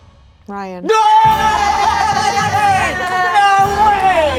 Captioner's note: all cheering